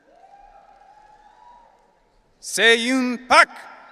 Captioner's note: audience cheering